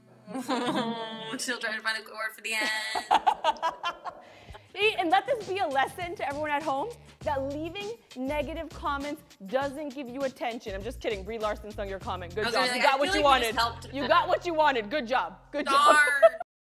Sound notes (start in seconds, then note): 0.3 laughs; 2.6 laughter